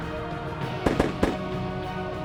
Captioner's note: gun shots